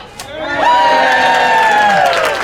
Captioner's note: cheers